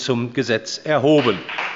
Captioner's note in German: Beifall bei der CDU und dem BÜNDNIS 90/DIE GRÜNEN